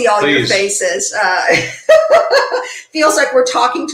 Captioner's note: laughing